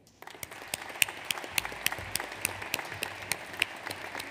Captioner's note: audience applauds